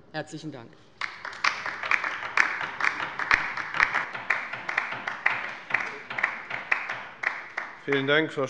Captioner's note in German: Beifall bei der LINKEN